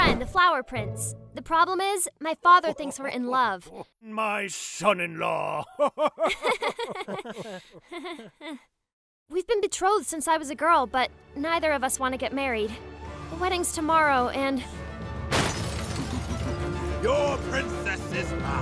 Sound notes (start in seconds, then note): 5.5 awkward laughter